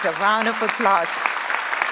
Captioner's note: applause